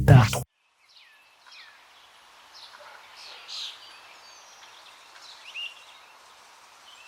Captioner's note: birds chirping